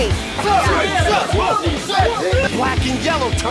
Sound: bee helpers yelling at tree

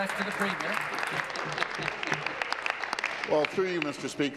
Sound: applause

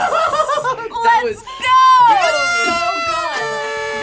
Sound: horn honks; horns honking

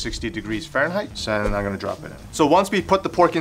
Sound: air whooshing

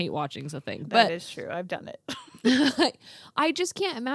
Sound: laughs

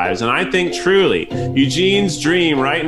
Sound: none

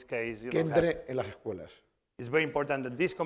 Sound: speaking spanish

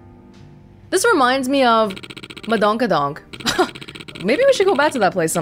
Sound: chuckles

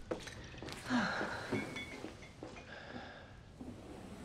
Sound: Barb sighs

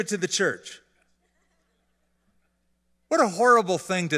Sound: laughter

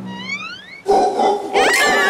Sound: monkeys howling; screaming

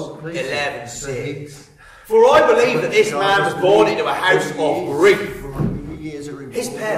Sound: Joseph continues muttering

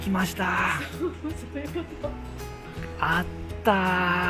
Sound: laughs

